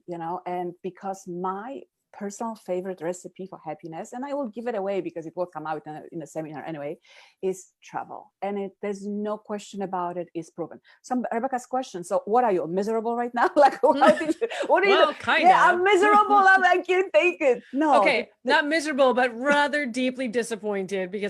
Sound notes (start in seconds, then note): 14.0 laughs